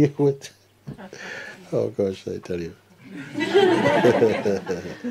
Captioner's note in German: Lachen